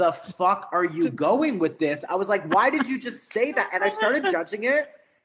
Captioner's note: laughing